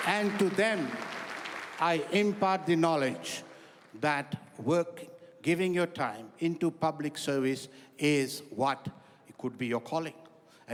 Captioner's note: applause